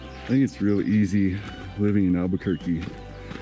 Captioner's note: birds chirping